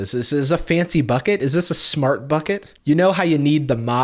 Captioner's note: none